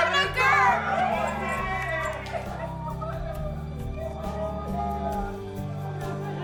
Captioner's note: all cheering; soft warm music